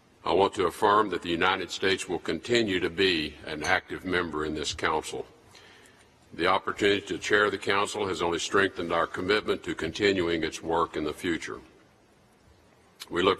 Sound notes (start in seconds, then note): none